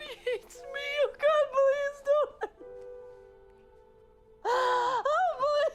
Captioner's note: crying